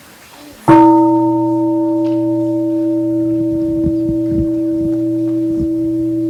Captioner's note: gong